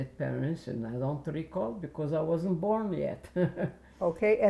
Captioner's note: laughing